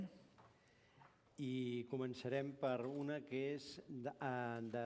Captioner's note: non-english speech